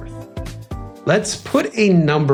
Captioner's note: whoosh